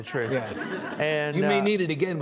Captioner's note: audience chuckling